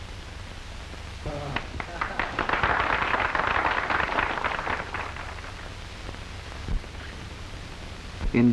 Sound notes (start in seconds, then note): 1.3 people applauding